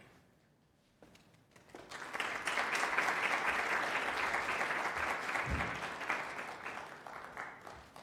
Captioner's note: applause